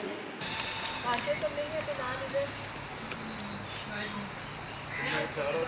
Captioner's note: birds tweeting